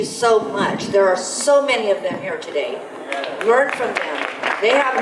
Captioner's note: audience applause